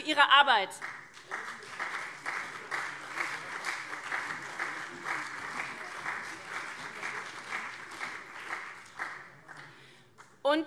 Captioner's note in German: Beifall CDU und SPD